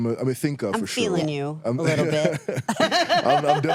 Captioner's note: laughs